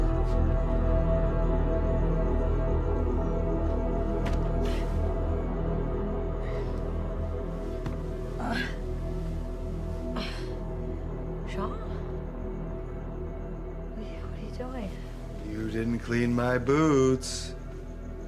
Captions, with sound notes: (boot thumping on wood) - Jean? What are you doing? - You didn’t clean my boots.